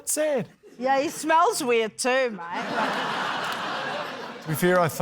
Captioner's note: laughter